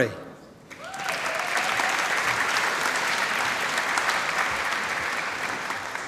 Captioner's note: applause